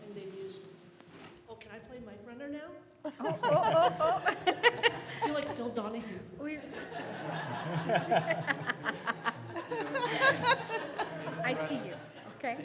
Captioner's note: audience laughter